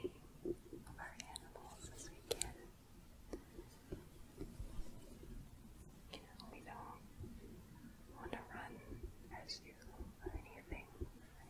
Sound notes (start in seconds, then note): 3.3 gentle shuffling